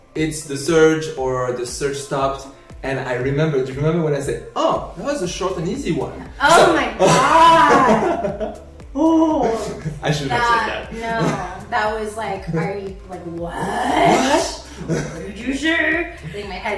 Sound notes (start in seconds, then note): 7.0 man laughs